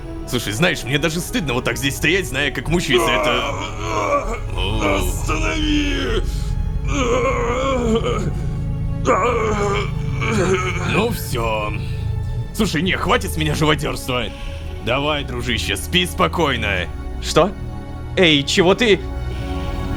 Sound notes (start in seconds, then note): 6.7 sounds of hellish torment